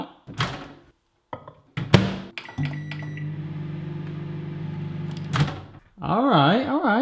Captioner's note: microwave door opening, closing and bleeping; microwave door opening